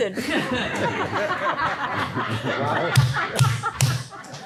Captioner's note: everybody laughing